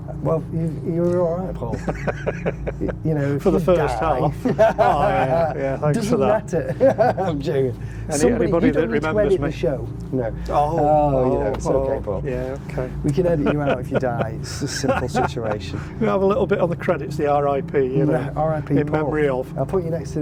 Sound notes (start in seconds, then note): 1.6 laughing